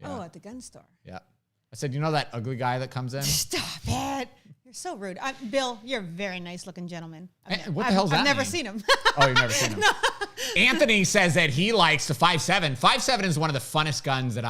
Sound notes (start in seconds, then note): 8.2 laughs